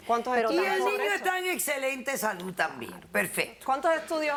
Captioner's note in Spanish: Hablan al unísono